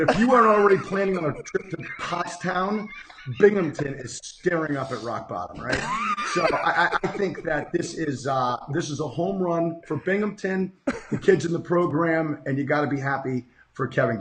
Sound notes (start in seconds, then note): 6.0 laughing